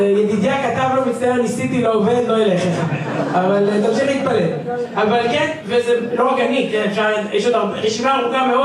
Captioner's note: laughter